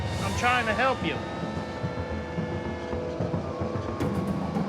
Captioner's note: sirens